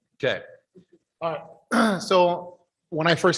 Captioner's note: clears throat